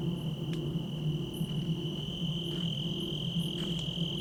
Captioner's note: crickets chirping